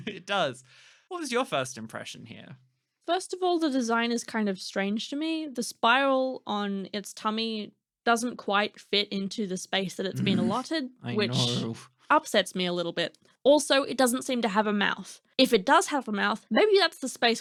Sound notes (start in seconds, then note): 11.1 grumbling